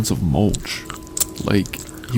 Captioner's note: chewing noises